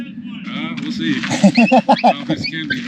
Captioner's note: laughter